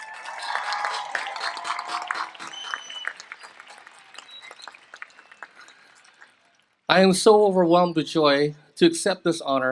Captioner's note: applause